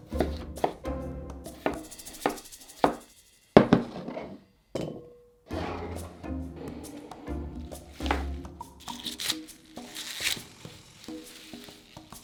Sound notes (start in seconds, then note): 0.1 knife cutting; 7.7 kale shucking